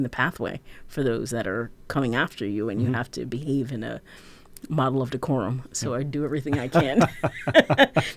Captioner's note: laughter